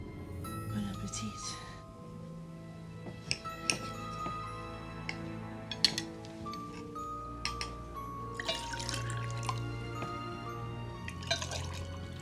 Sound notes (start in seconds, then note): 3.1 cutlery clanking; 8.4 water pours